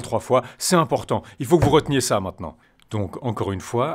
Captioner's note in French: tape sur la table